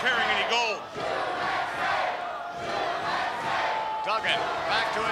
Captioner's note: crowd chants "USA"